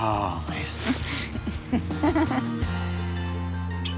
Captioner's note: chuckles